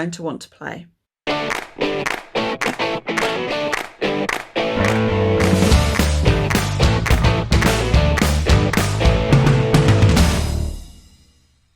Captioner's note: claps